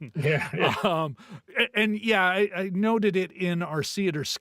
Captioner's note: laughing